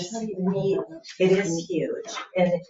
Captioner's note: people chattering